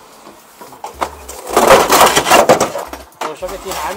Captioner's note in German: Lautes Krachen